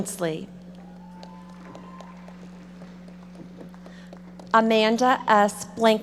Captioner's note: audience applauding